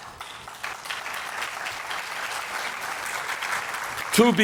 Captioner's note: applause